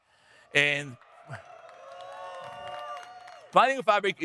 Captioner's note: audience cheering